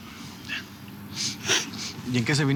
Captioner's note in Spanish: sollozos